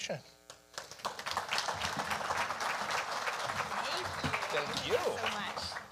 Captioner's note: audience applauding